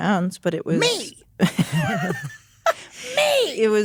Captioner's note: all laugh